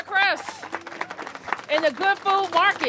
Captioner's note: applause